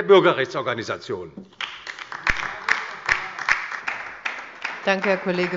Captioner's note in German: Beifall bei der LINKEN